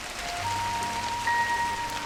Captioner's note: the sound of rain hitting the roof